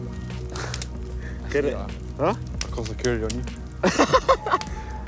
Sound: laughs

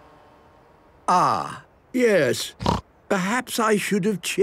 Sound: snorting

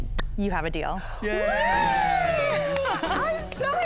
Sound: all cheering

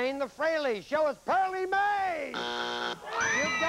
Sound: buzzer

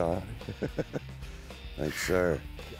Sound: laughing

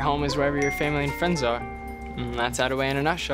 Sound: cell phone rings

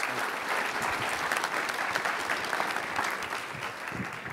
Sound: applause

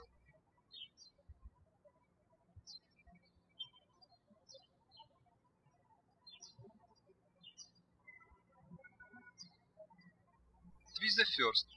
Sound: birds chirping

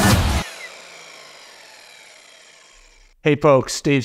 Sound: saw buzzes

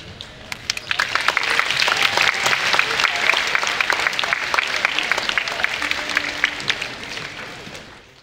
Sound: applause

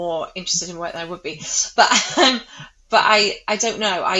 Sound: laughs

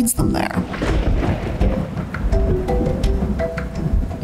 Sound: thundering

